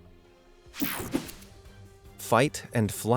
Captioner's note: air whooshing